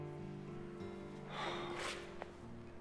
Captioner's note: sighs